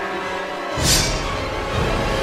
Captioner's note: knife swipe